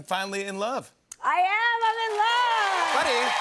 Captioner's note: cheers and applause